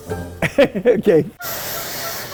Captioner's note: laughing; steam hissing